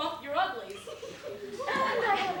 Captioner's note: laughter